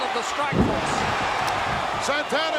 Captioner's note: audience cheering